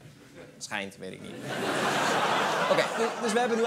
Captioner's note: laughter